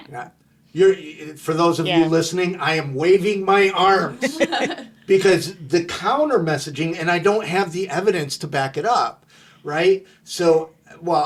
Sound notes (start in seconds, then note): 4.1 laughing